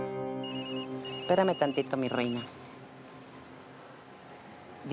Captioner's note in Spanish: Suena el celular